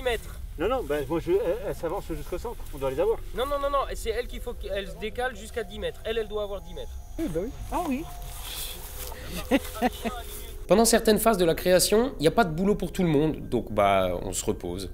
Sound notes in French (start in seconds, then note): 9.2 rire